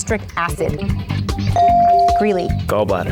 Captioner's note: bell dings